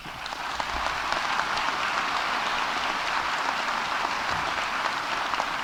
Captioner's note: audience applauding